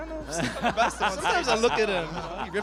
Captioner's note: laughter